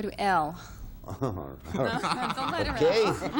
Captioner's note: chuckles; laughs